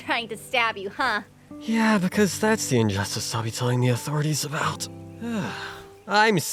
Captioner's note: sigh